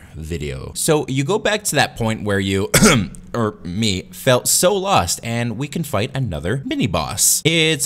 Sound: ahem

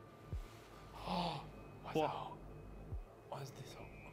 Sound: gasps

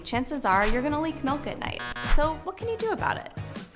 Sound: alarm buzzes

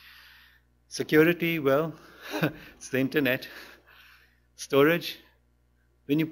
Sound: chuckles

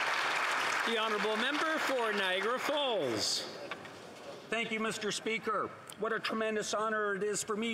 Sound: some Applause

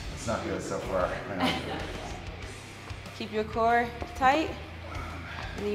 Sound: laugh

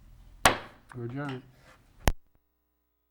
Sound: gavel banging

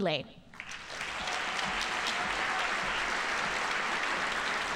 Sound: audience applauding

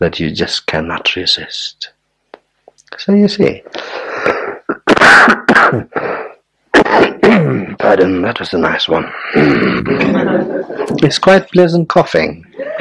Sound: coughing

